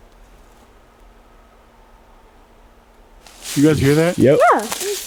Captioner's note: screaming